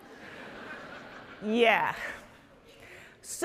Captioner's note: audience laughing